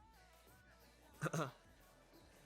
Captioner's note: cough cough